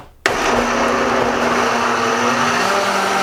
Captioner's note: whirring